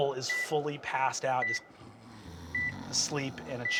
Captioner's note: imitates snoring